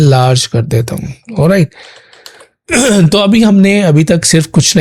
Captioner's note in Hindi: गला साफ़ करने की आवाज़